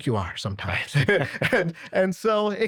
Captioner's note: chuckles